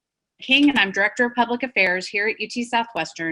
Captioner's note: audio skips